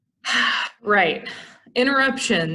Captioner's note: sigh